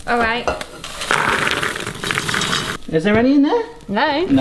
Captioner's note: popcorn cascades into bowl